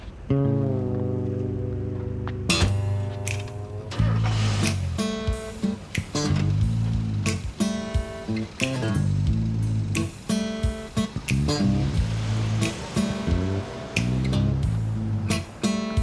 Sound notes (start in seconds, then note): 4.3 car starts